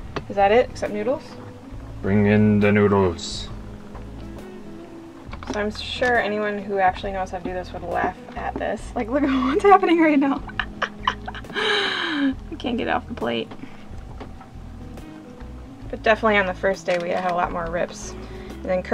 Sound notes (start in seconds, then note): 10.8 laughing